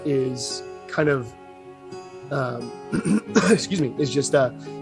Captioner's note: cough